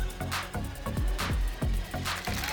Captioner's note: cheering, applause